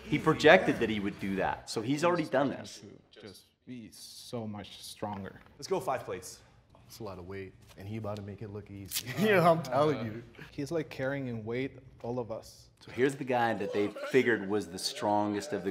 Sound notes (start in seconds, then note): 9.3 chuckles